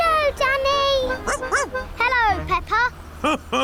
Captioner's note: barks; laughs